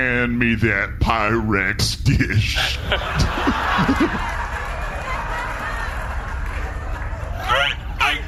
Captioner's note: audience laughs